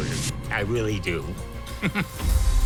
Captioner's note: chuckles